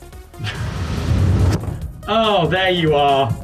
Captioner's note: curtain dragging